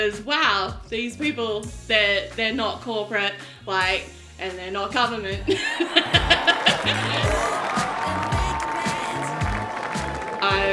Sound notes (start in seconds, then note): 5.4 laughing; 8.2 audience applauding